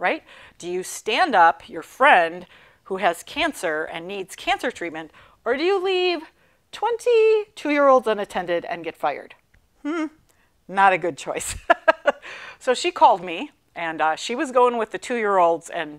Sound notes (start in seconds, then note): 11.6 laughing